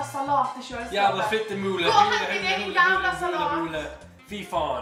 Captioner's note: Nick speeks “Norwegian”